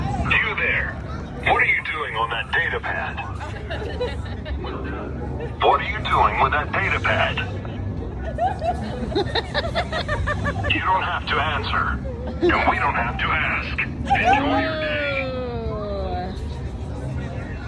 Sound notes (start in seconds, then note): 3.3 background laughing; 8.3 laughing